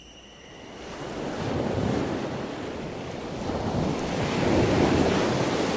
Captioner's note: waves splashing and crashing